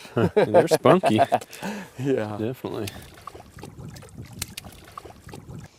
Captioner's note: laughing